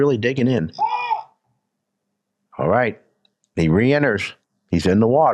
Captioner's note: handler shouts